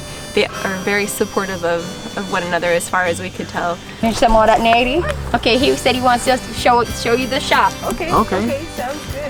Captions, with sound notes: Are very supportive of one another as far as we could tell [speaking Pennsylvania Dutch] He said he wants us to show up to show you the shop okay